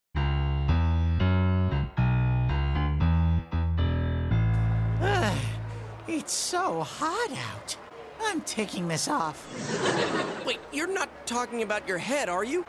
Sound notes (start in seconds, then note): 0.2 theme tune; 9.4 audience laughs